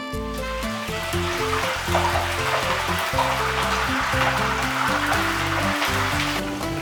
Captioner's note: sizzle